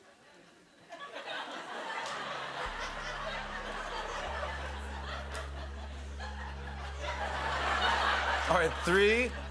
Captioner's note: laughter